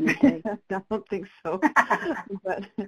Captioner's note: laugh